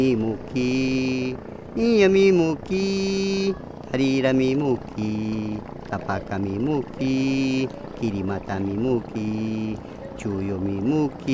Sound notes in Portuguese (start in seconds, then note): none